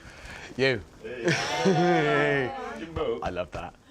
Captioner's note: cheer